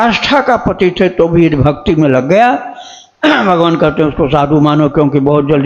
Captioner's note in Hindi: गला साफ़ करने की आवाज़